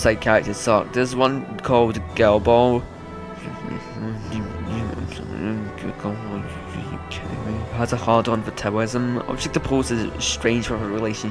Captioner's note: spiteful mumbling